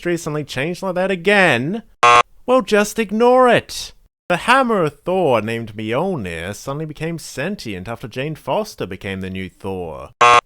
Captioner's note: buzzer sound; buzzer sound